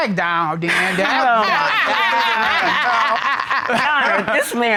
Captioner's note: Judge Dana laughing